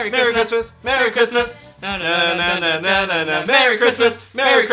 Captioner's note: humming song